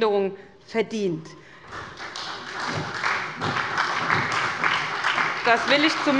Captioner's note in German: Beifall bei der SPD